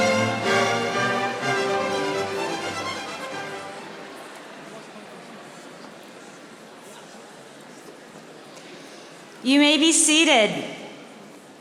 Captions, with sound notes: (audience chattering) - You may be seated.